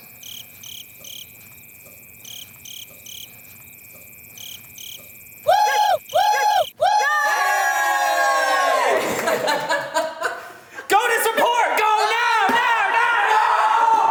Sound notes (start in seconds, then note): 0.1 birds twittering; 5.5 imitating bird cawing; 8.4 all laughing